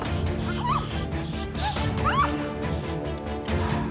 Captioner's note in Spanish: trata de gritar